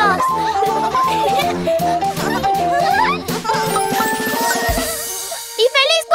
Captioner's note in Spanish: Risas